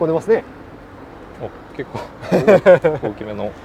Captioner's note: laughs